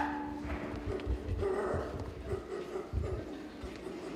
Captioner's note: Nana barks